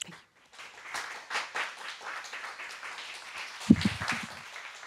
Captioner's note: audience applauds